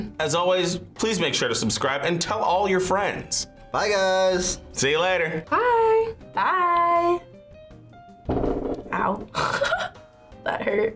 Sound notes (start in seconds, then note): 8.2 table thuds; 9.4 laughs